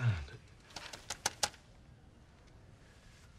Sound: taps on paper

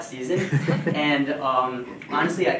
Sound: audience chuckling

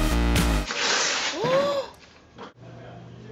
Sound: gasps

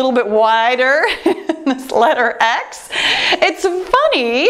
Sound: laughing

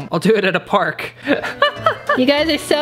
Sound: chuckling

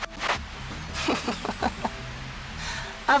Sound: laughter

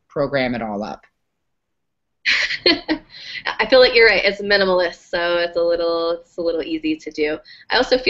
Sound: laugh

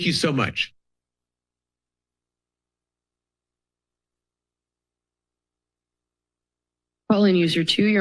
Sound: silence

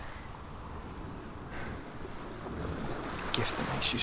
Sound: sigh

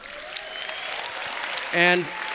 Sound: applause

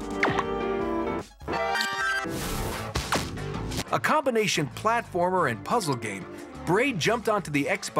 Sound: rewinding

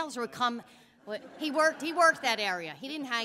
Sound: laughter

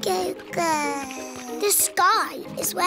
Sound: babbles

